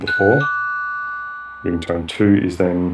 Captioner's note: ringtone ringing